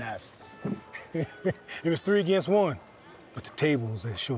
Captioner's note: laughs